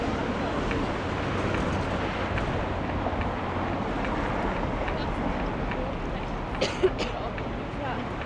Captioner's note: coughing